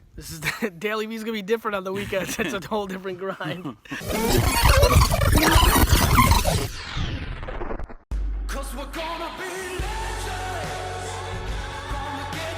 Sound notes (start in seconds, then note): 3.9 tape rewinding; 9.4 triumphant rock music